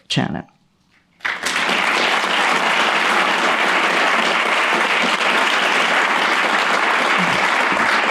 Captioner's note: applause